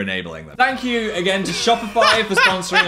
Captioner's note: Dan laughing; children cheering